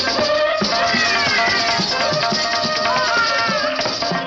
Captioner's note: baby crying